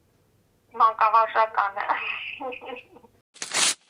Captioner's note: laughs